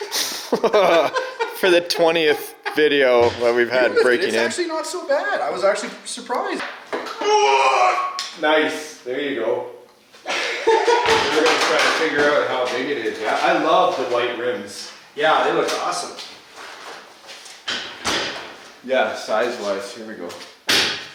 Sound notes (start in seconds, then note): 0.0 laughing; 7.1 groaning; 10.2 laughing